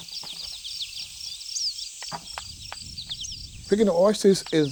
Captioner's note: birds and bugs chirping